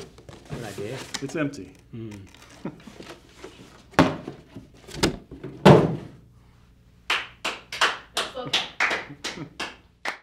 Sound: laugh

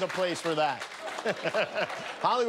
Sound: laughter

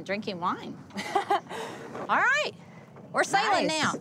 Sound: laughing

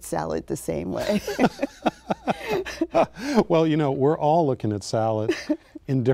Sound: laughing; laughs

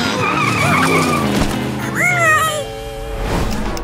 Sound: squeaking

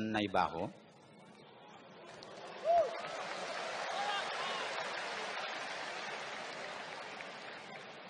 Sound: applause

